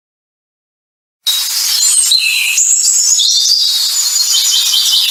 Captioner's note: birds chirping